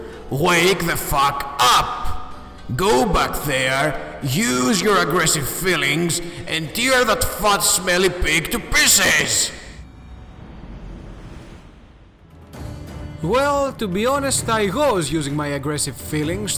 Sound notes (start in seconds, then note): 9.8 mystical sound